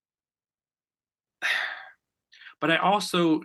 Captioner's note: sighs